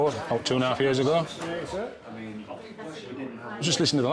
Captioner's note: people chattering